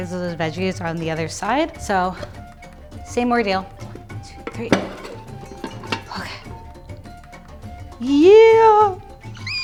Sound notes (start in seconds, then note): 5.1 pan banging; 8.7 squealing